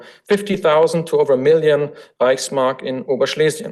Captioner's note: foreign language